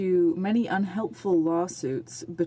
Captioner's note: speaking french